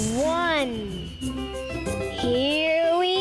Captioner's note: rocket whizzing